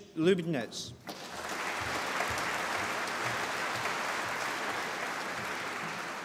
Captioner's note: applause